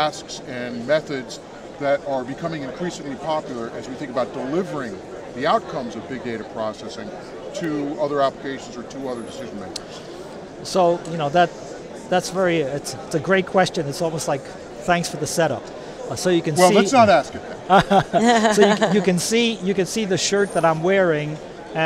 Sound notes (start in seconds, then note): 16.6 laughs